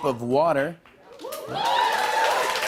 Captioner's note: cheers and applause